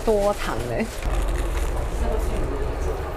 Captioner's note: crispy sound